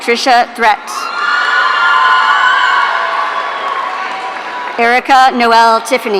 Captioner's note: audience cheering